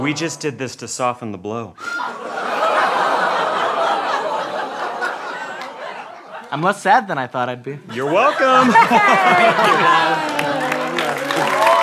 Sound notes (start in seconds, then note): 1.9 audience laughter